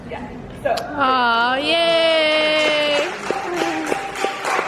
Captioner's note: audience cheering